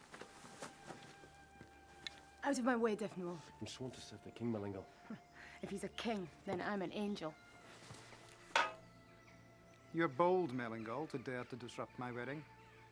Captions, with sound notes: - Out of my way, Defenwol. - I'm sworn to save the king, Melengal. - (laughs) If he's a king, then I'm an angel. - You're bold, Melengal, to dare to disrupt my wedding.